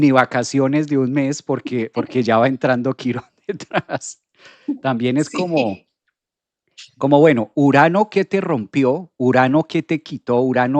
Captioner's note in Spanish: risas